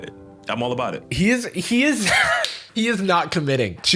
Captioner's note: wheezes